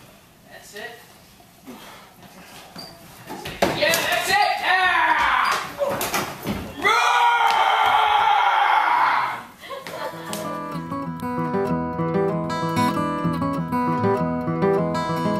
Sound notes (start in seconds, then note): 6.9 roaring